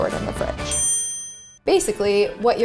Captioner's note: ding